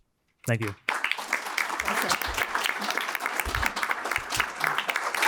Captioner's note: applause